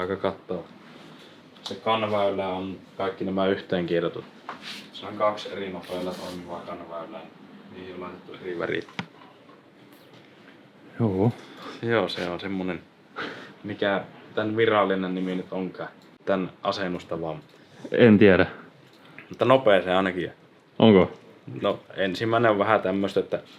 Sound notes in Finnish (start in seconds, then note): 13.0 naurahtaa